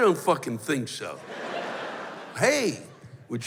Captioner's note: laughter